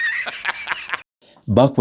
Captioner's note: laughter